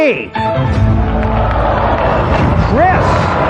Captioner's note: audience sigh in shock